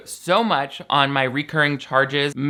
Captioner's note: none